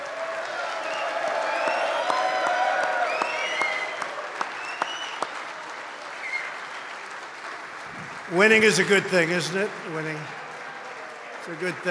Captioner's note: applause